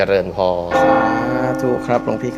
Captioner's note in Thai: เสียงระฆัง